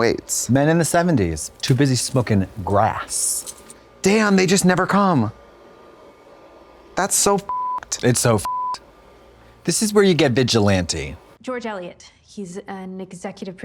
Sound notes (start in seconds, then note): 8.4 beep